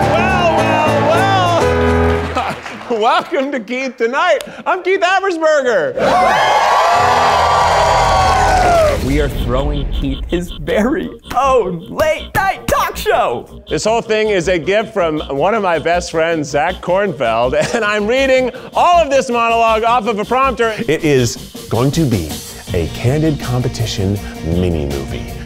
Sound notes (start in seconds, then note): 2.2 laughs; 5.9 crowd cheers